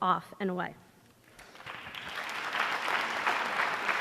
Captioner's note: applause